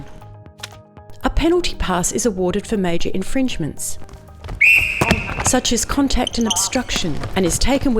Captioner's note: whistle